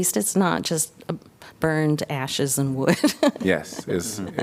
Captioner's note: laughter